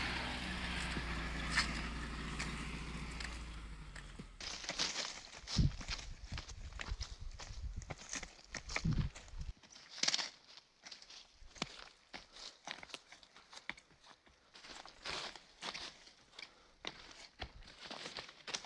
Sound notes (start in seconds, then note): 1.5 footsteps crunching; 12.6 footsteps crunching